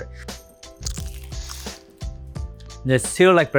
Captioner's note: upbeat music; chicken crunches